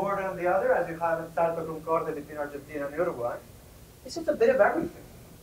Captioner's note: spanish